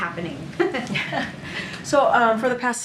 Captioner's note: laughter